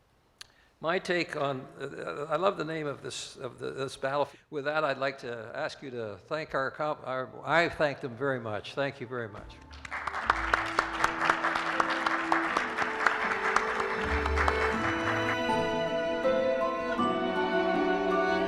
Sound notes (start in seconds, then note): 9.5 applause